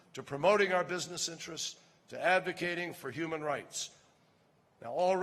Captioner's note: none